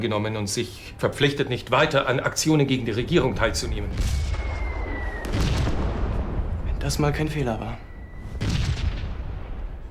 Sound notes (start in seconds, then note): 3.9 shells explode nearby